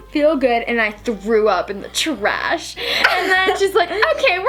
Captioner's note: laughs